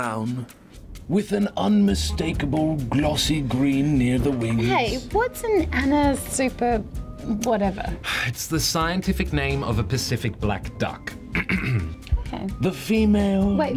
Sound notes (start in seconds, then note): 7.6 sighs; 11.3 clears throat